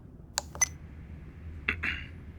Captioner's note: recorder beep